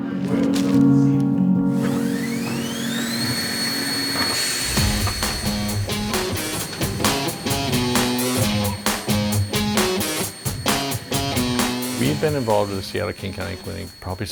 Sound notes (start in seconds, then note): 2.3 machine whirring